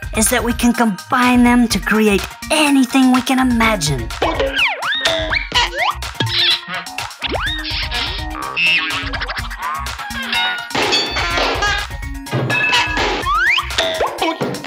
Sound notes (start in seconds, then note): 4.4 cartoon sounds